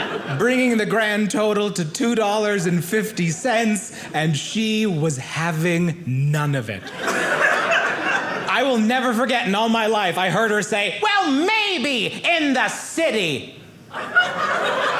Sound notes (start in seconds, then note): 6.8 audience laughing; 13.9 audience laughing